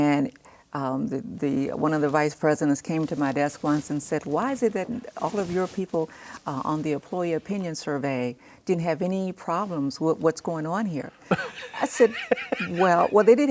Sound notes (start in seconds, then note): 11.3 laughs